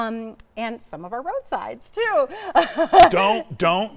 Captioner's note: laughing